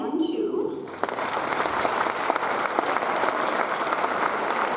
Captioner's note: audience applauds